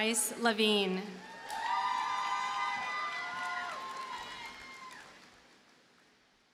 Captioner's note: audience cheers and applauds